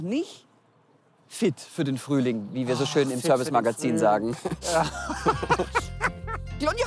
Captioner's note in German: beide lachen